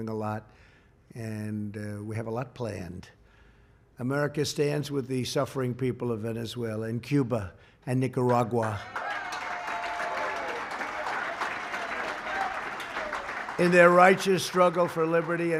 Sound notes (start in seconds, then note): 8.6 applause